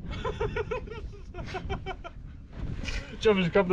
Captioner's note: laughter